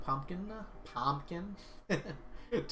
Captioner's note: laughs